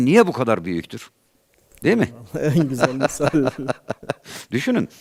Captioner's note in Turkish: kahkaha